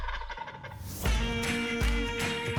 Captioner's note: turkey gobbles; upbeat bluegrass music continues